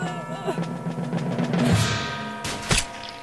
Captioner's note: gunshot